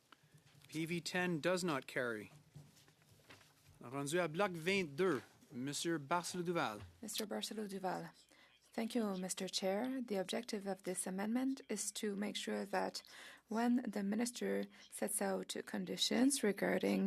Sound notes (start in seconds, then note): 8.6 speaking French